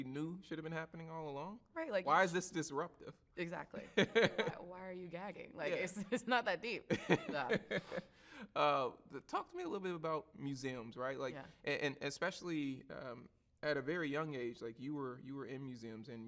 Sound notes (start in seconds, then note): 3.8 laughs; 6.9 laughs